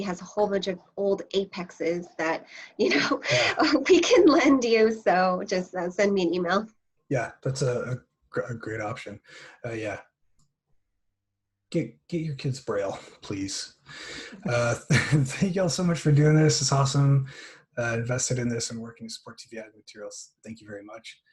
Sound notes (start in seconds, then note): 2.8 laughter